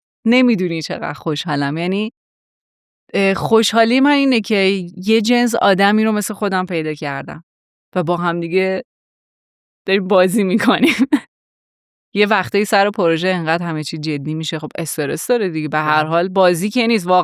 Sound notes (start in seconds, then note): 11.1 laughs